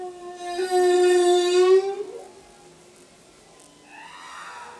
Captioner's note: whales calling continues